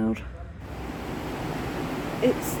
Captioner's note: heavy rain